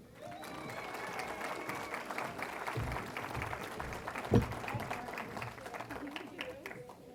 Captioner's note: cheering & Applause